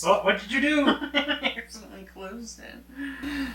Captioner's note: laughing